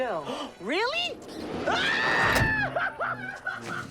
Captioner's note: screaming